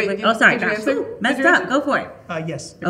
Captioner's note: exclaiming